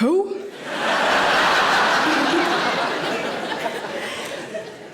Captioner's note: audience laughing